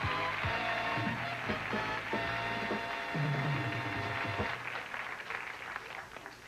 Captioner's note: audience applauding